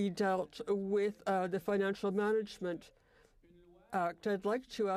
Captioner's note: speaking French